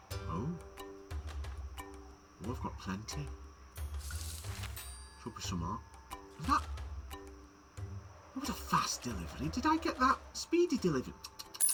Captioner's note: tuts